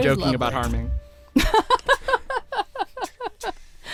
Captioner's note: laughing